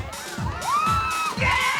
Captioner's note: woman whooping